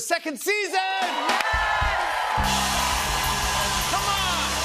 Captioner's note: cheers and applause